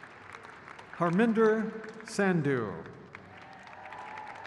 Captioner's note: crowd cheers